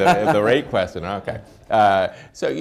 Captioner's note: laughs